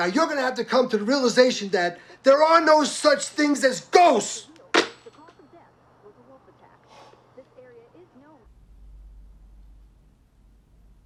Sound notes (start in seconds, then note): 4.7 phone slams; 4.9 Carl sighs